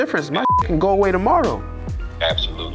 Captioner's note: beep